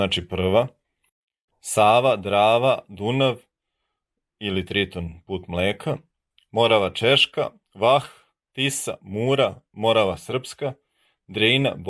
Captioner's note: Serbian